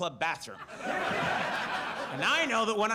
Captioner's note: audience laughs